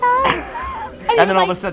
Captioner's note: laughing